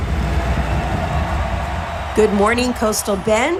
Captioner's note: crowd cheering